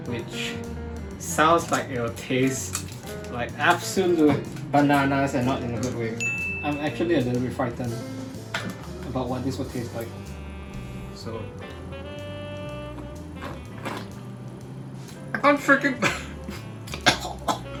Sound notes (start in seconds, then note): 14.0 slurping; 16.0 chokes